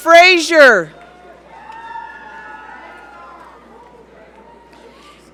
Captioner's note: audience cheering